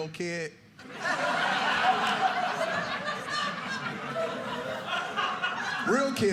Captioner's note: audience laughing